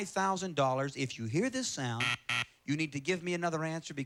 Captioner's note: buzzer